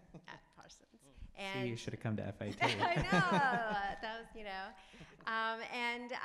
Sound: laughs

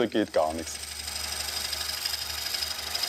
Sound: whirring

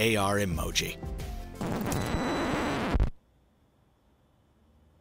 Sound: record scratches

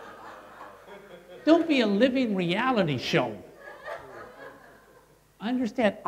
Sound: laughter; laughter

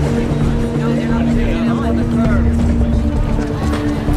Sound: indistinct chatter

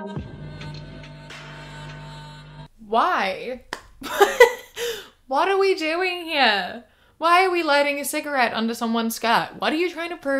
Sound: laughs

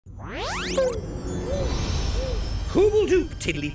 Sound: poofs

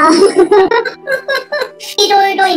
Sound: laughs

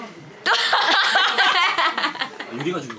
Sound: laughing

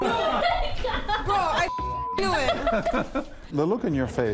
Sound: laughter

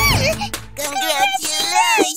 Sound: making happy sounds

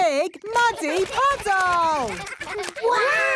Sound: splashing

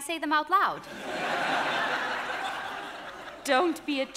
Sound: audience laughing

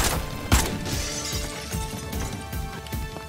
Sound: breaking glass

